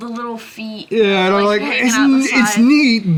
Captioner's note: both chattering